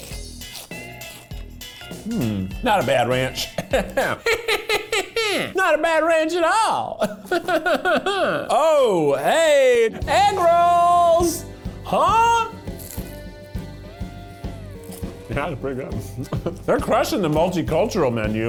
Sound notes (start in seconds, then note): 0.0 munching; 2.0 humming; 3.5 laughing; 14.8 crunching